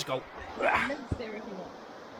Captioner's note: getting old Noises